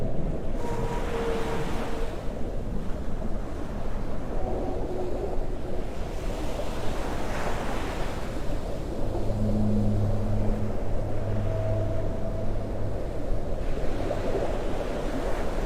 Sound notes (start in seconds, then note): 0.6 waves crash; 10.0 whales sing